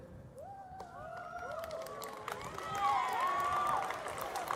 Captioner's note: applause